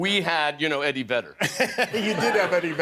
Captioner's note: laughter